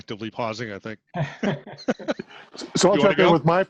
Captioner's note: laughing